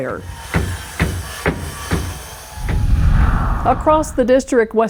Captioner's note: hammering